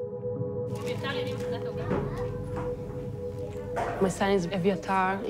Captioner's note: people chattering